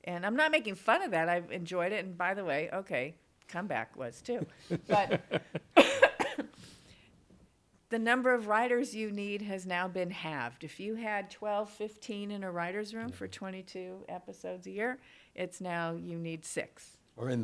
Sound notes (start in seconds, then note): 4.4 coughs